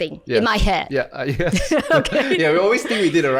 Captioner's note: laughter